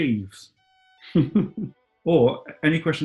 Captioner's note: chuckling